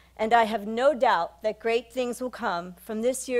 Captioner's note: none